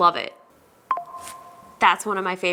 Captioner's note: notification alert